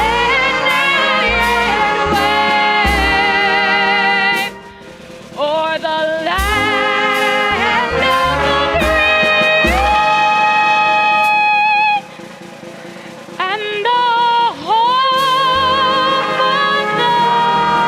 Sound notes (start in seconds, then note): 5.6 applause